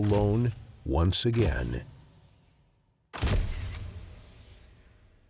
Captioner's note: cameras snapping